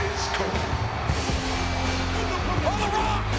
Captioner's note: spectators cheering